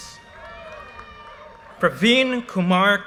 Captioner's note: audience cheers and applause